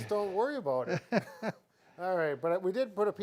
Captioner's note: chuckling